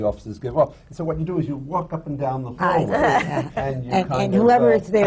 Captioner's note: laughter